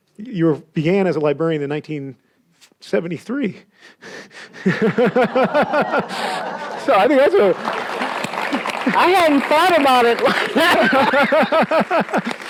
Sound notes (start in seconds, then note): 4.6 audience laughs; 7.7 audience applauds